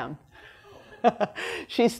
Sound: laughter

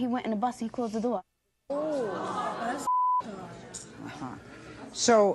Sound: audience gasping

